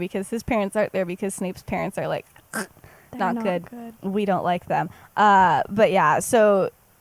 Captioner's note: choking sound